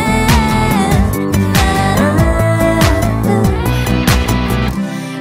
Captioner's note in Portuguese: vocalizações